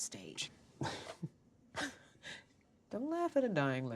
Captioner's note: chuckling